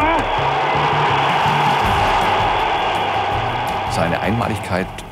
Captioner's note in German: Applaus